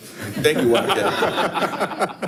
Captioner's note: participants laughing